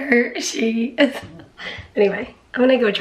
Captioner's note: chuckling